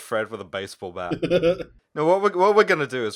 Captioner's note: laughter